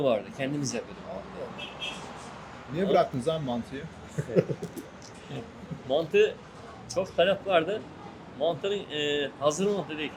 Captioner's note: laughs